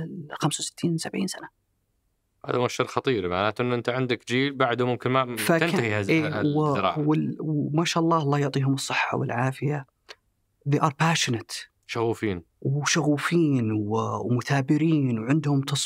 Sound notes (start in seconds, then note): 12.2 in Arabic